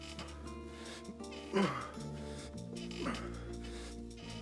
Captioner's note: grunting